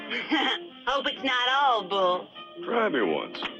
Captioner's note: laughs